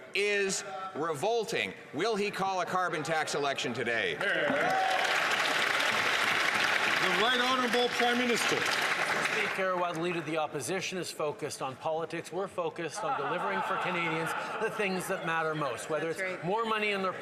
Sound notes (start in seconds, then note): 6.7 some Applause